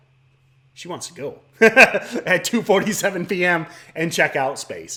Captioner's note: chuckles